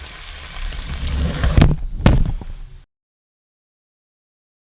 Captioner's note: pan sizzles; camera thuds